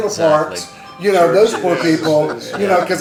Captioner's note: mobile phone makes alert sound